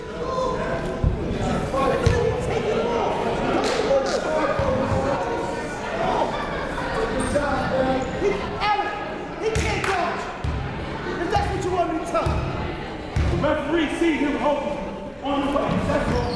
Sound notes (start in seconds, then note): 5.7 chatting; 14.2 shouting